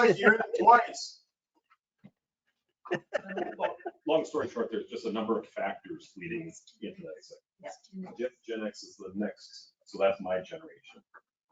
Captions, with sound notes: It looks like you're in it twice. Well, long story short, there's just a number of factors leading into that (speaking faintly). Gen X is the next, so that's my generation.